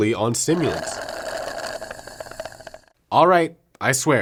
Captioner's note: loud slurps